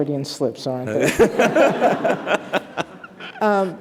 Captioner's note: laughter